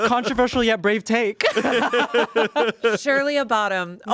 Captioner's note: everyone laughs